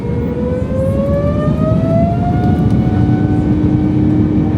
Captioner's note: engines roaring